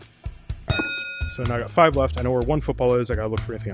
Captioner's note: ding